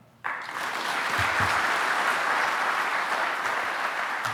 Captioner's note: audience applauding